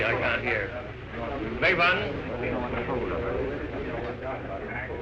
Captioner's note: men talking